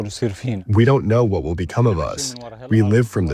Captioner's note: through translator